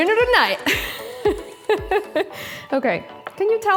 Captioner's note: laughs